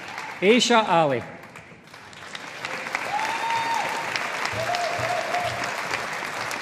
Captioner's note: audience applauding